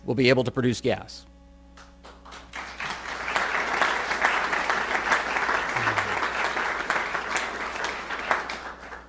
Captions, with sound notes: will be able to produce gas. [APPLAUSE]